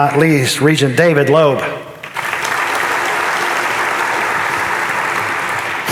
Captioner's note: audience applauding